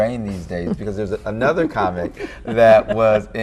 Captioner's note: chuckling